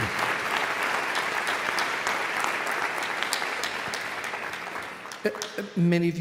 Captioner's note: audience continues applauding